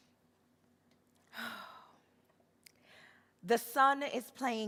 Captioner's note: sighs